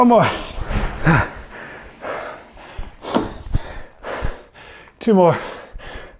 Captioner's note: breathing heavily